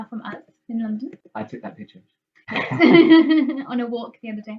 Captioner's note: laughs